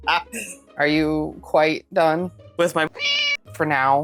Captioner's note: meow